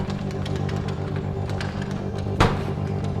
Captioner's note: door handles slam